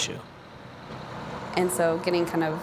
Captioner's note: truck engine running sounds